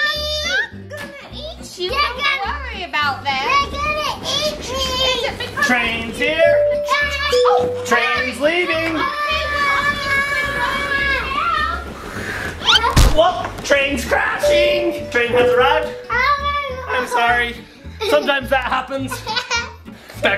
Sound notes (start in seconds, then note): 6.5 making choo choo sounds; 14.4 doorbell ringing; 16.0 yelling